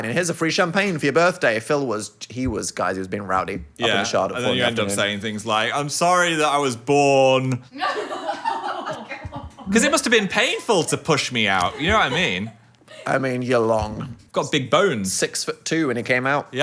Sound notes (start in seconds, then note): 7.8 everyone laughs